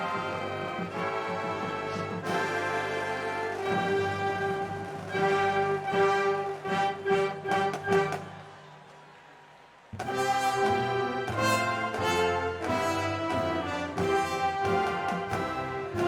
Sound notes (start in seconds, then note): 7.0 cheers and applause